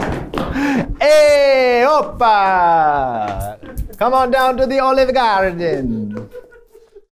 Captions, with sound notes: Hey, opa! Come on down to the (mimics Italian accent) Olive Garden!